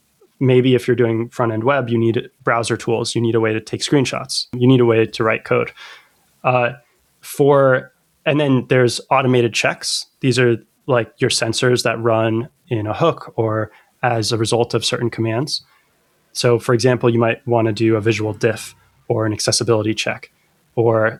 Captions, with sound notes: Maybe if you're doing front-end web you need browser tools, you need a way to take screenshots you need a way to write code [UH] For and then there's automated checks. These are like your sensors that run in a hook or as a result of certain commands. So for example you might wanna do a visual diff for an accessibility check or [UH]